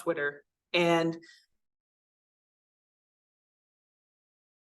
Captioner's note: audio cuts out